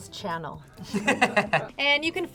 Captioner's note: laughs